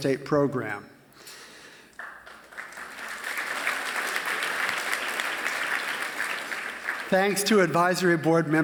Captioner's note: applause